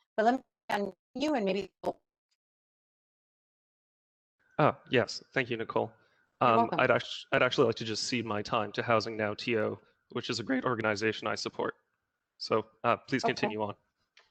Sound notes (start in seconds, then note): 2.0 audio dropped